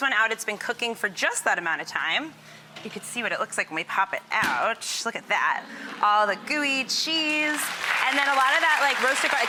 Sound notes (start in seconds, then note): 7.5 audience applauding